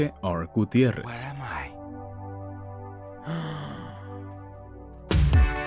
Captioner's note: gasps; upbeat music